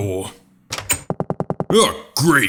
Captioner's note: door opens